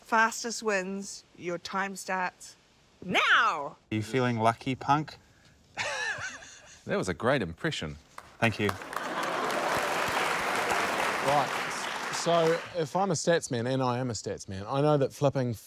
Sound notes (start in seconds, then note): 5.8 chuckles; 9.8 applause